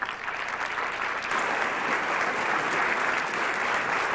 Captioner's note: applause